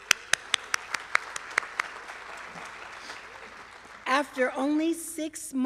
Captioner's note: applause